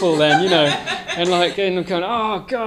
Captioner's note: audience laughing